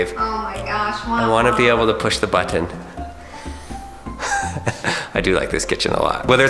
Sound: laughs

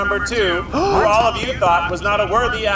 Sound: all gasp

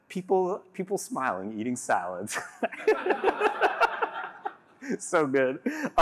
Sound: laughter

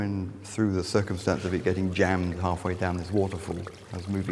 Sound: sound running stream of water

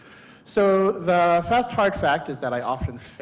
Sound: none

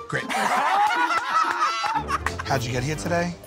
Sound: laughter

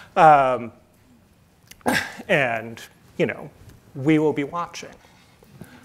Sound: chuckles

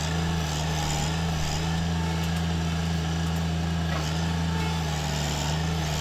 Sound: engine rumbling continues

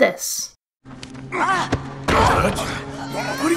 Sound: slam

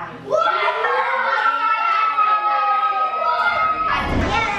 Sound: kids cheering

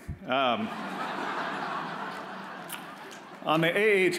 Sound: audience laughs

